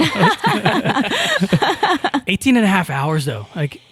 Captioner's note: all laughing